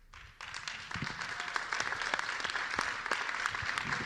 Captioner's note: applause